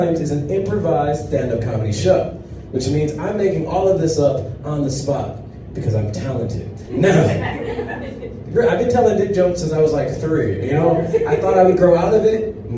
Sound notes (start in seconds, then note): 6.8 audience laughs